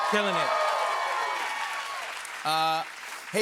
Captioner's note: cheers and applause